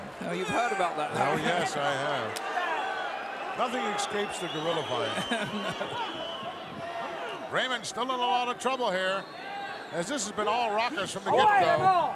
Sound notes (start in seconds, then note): 5.3 laugh